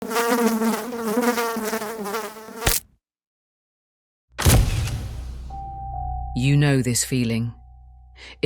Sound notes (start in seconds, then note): 0.0 fly buzzing; 2.0 fly splatting; 4.5 eerie music